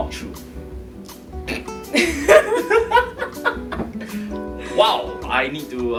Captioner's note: laughs